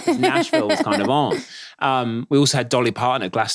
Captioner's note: laughing